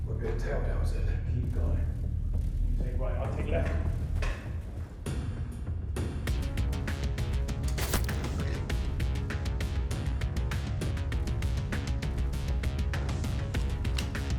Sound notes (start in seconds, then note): 6.4 mellow upbeat music; 7.7 crossbow bolt thudding; 11.1 mellow upbeat music